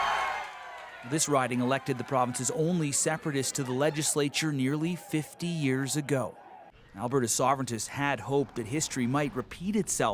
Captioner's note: cheers and Applause